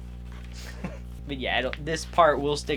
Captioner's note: laughs